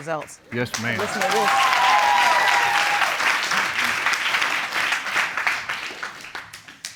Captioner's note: audience cheering